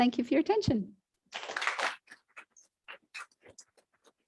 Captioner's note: applause